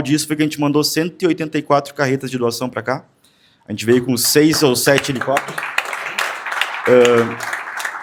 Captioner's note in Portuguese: aplausos